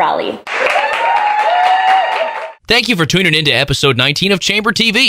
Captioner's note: cheering and applause